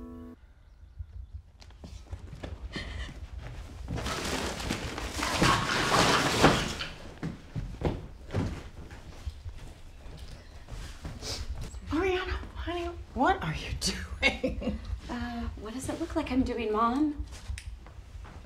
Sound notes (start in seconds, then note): 4.9 rustling